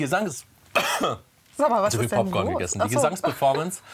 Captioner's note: coughs